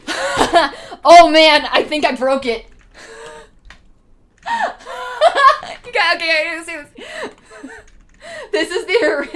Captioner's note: laughing